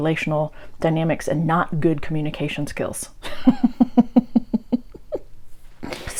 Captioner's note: laughter at how sad it all is